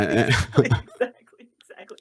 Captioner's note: laughter